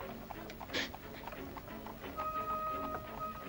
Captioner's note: hooves clopping; tense music; gasps; tense music; hooves clopping